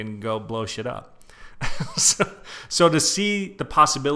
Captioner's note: chuckles